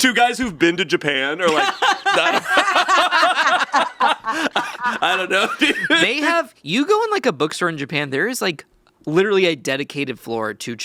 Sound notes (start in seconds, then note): 1.4 all laughing